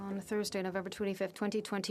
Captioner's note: speaking French